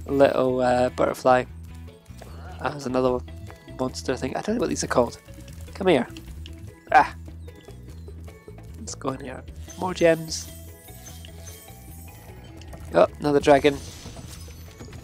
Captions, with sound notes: little butterfly. There's another monster thing. I don't know what these are called, come here. Let's go in here, more gems. (gems twinkle) Another dragon.